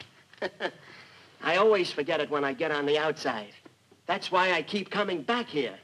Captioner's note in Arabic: يضحك